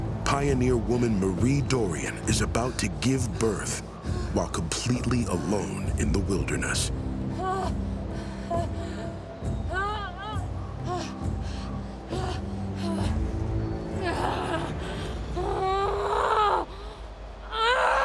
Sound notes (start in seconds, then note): 7.5 groans, panting; 17.4 screaming